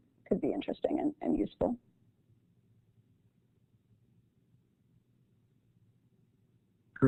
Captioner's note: silence